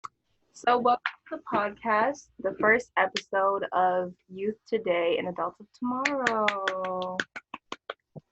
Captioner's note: clapping